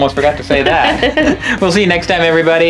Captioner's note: laughing